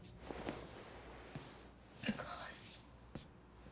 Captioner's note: voice cracking